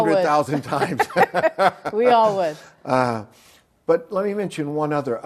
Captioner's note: both laugh